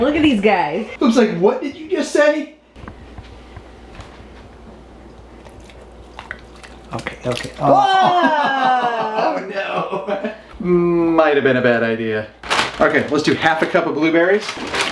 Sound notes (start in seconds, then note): 5.2 slurping; 7.6 laughing